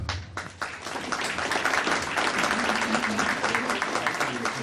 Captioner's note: audience applauding